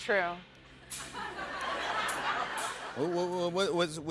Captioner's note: laughter